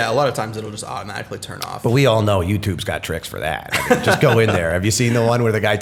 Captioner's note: chuckle